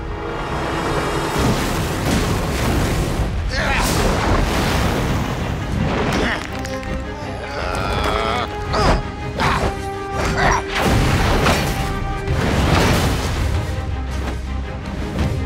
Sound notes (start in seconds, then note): 6.2 grunting